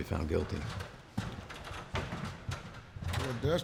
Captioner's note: clattering sound